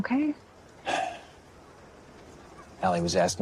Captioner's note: sighs